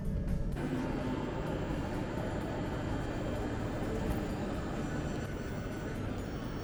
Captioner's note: high-speed train